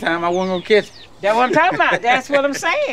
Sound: laughs

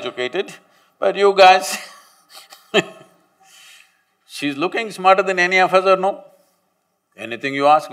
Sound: laughs

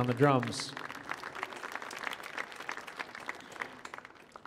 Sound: audience applauding

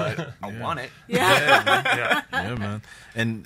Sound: laughs

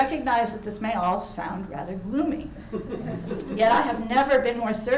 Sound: audience laughing

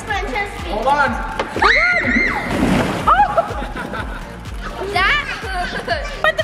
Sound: shouts

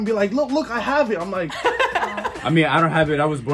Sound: laughs

